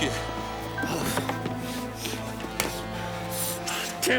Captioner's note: John sighs